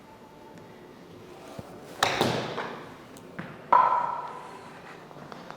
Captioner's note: golf club hits ball